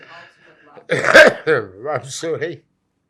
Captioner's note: coughing